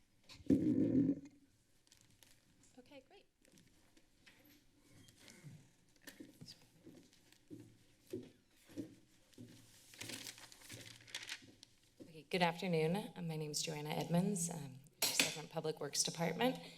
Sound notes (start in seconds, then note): 5.8 footsteps; 9.1 paper rustling